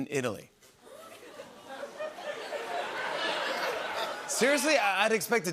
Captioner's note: laughter